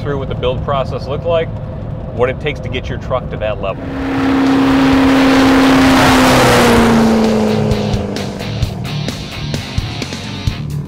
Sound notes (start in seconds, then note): 4.0 engine roars; 8.2 rock music